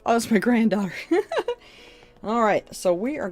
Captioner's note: chuckles